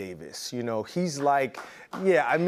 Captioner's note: applause